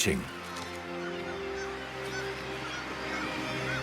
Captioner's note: birds squawking